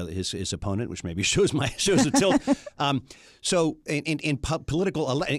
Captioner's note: laughs